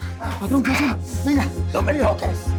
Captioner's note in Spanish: none